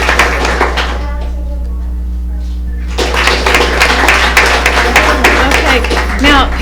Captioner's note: applause